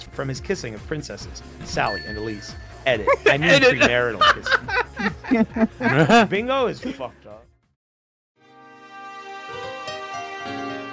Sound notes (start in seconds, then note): 4.6 laughter